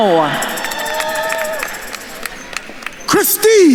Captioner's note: attendees cheering and applauding